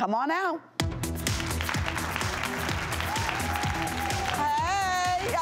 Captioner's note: clapping